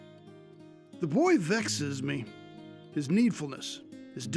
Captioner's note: Randolph Voiceover